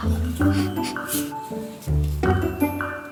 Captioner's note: sniffs